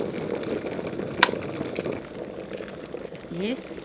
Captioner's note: boiling water